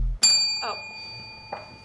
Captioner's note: bell ringing